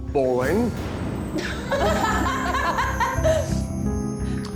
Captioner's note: contestants laughing